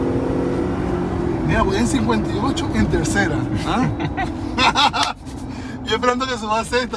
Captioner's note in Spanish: risas